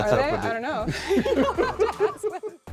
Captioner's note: people laugh; laughs